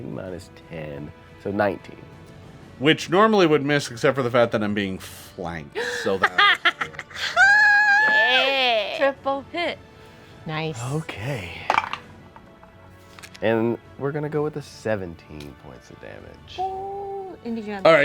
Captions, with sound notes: minus 10, so 19. - Which normally would miss except for the fact that I'm being flanked. (Omelette snickers evily) - Triple hit. - Nice. - Okay (dice roll), and we're gonna go with a 17 points of damage.